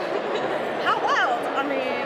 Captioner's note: laughs